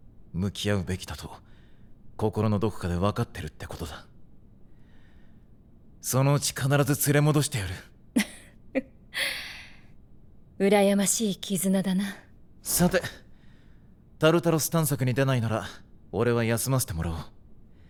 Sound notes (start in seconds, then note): 8.2 Mitsuru laughs